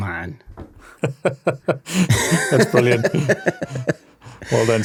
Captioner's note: chuckles